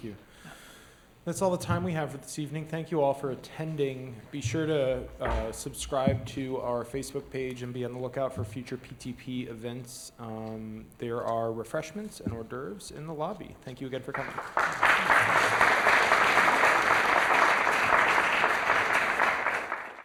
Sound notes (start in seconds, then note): 14.1 applause